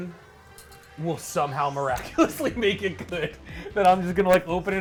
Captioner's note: laughs